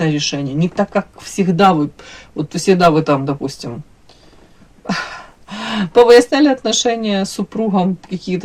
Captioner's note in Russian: вздыхает